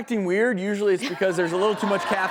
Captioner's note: audience laughing